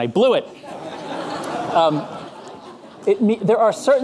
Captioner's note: audience laughing